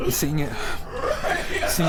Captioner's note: creature, crying